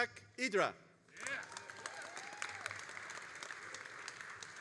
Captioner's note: all applauding